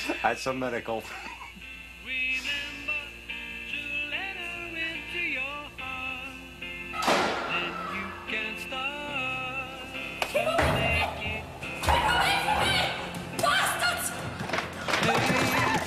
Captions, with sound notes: It's a miracle. (BANGING) (WOMAN SCREAMING) Keep away from me! Keep away from me! Bastards!